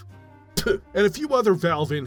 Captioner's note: spit